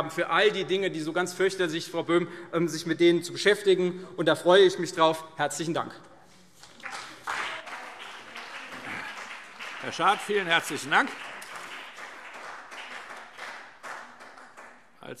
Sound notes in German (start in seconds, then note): 6.6 Beifall CDU und BÜNDNIS 90/DIE GRÜNEN